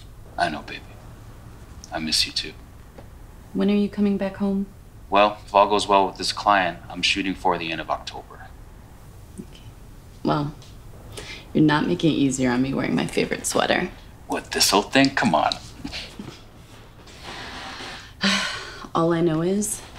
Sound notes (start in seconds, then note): 15.8 sniffing